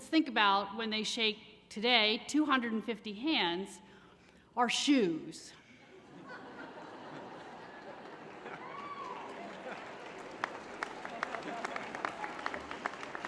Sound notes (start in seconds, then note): 5.8 laughter; 9.5 applause